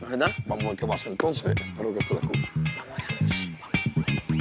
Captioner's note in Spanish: Susurra